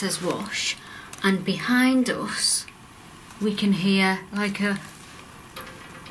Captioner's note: quiet tapping